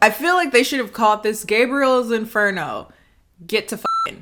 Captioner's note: beep